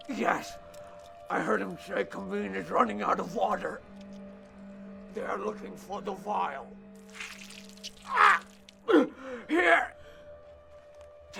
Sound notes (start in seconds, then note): 8.0 yelps